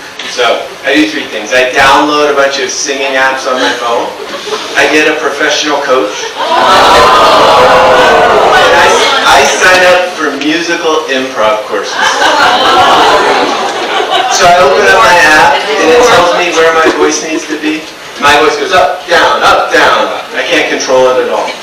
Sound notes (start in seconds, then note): 8.0 audience ooohs